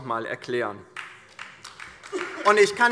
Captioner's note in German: Beifall DIE LINKE